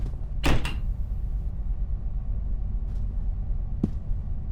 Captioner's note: banging